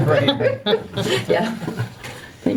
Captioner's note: all chuckling